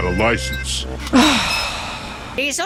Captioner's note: sigh